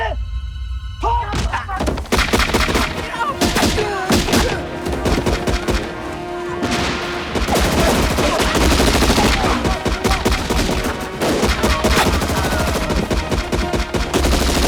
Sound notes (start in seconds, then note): 2.7 North Korean Soldiers Yelling